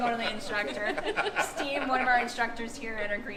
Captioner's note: laughing